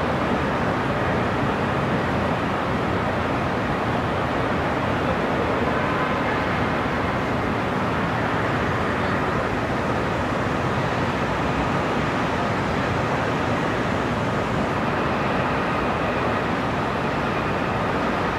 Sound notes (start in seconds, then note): 1.7 city sounds and distant cars